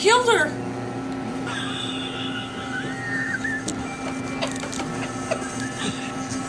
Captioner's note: laughing